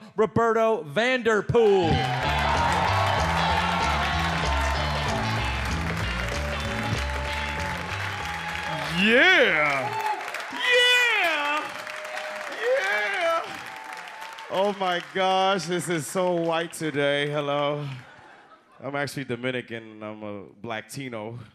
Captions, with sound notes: Ruperto Vanderpool. (audience applauds and cheers) (upbeat music) - Yeah. Yeah. Yeah. Oh my gosh. This is so white today. Hello. I'm actually Dominican. I'm a blacktino.